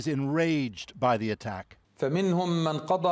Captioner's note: speaking alternate language